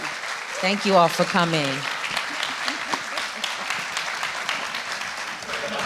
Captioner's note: audience clapping